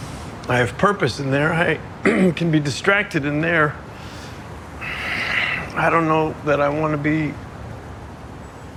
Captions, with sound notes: I have purpose in there. I-- (CLEARS THROAT) ...can be distracted in there. (SNIFFLES, SIGHS) I don't know that I want to be...